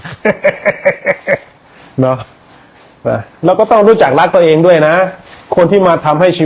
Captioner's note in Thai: เสียงหัวเราะ